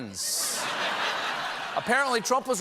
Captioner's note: laughter